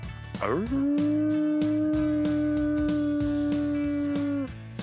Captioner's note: howling